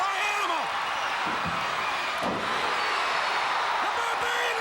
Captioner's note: crowd cheering